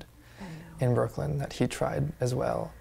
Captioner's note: whispers